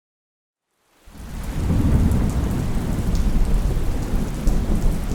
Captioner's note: rain and thunder